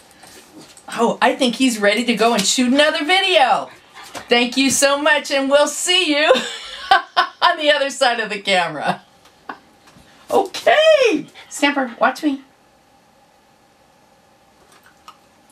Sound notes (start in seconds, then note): 6.3 laughter